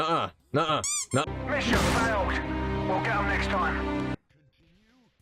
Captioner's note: squeak of defeat